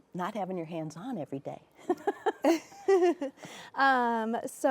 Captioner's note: both laughing